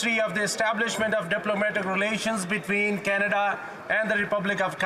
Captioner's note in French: voix de l'interprète